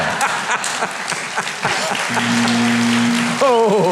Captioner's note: audience clapping; audience laughing